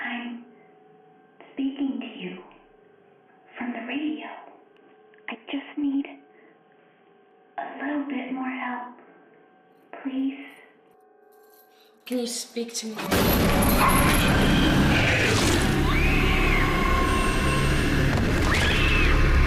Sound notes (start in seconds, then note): 11.3 chain rattling; 12.6 sudden ominous music; 15.6 Paula screaming; 15.6 monster growling; 17.8 Paula thudding; 19.2 Paula screaming; 19.2 soft intense music